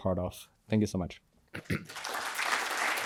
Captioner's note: applause